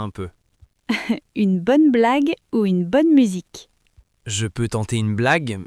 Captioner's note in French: rire